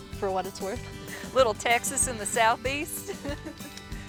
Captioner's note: laughs